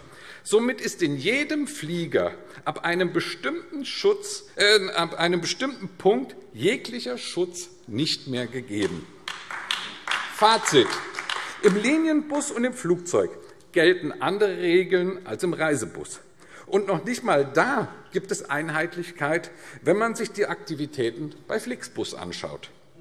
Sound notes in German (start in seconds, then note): 9.2 Beifall AfD